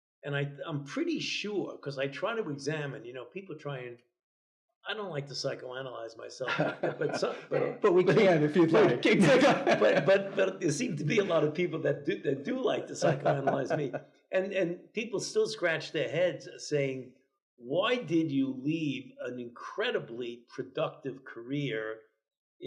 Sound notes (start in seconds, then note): 6.7 chuckles; 9.6 laugh